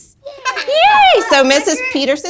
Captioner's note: giggles